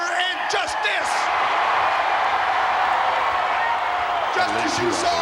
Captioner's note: crowd cheering